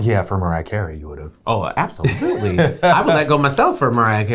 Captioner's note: laughs